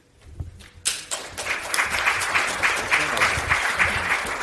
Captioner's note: audience applauds